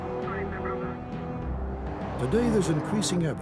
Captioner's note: police radio chattering